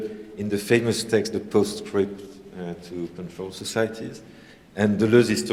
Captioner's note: french